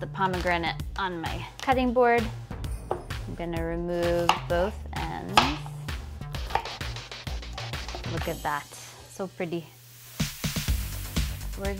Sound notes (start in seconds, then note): 6.4 chopping; 10.3 upbeat music